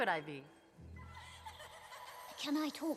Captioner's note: snowflakes giggle